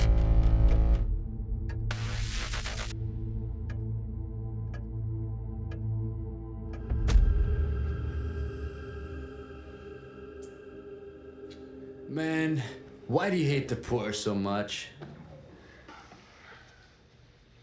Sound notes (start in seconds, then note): 1.4 clock ticking